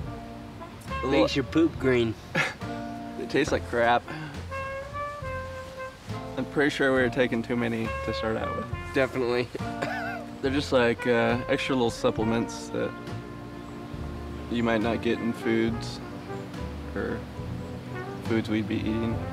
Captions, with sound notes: It makes your poop green. It takes like crap. I'm pretty sure we were taking too many to start out with. Definitely. (laughs) They're just like extra little supplements that... You might not get in foods, or foods we'd be eating.